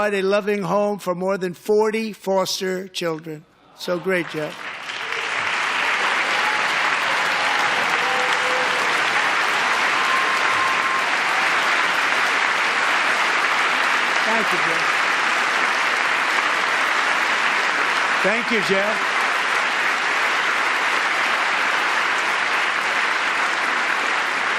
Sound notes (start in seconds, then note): 8.8 applause